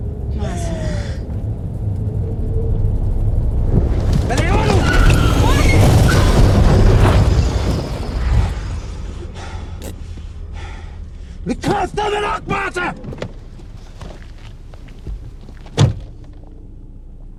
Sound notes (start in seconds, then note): 15.7 car door close